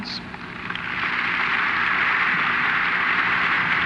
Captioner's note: applause